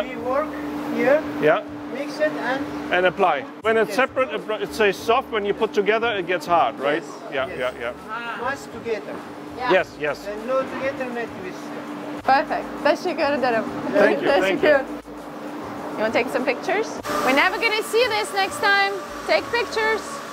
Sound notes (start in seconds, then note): 15.1 machinery humming